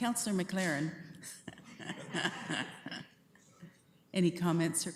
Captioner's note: laughter